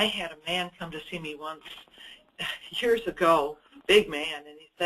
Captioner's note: chuckles